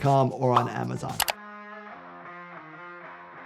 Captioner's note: keyboard clicking; upbeat music